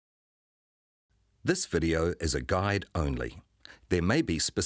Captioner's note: voiceover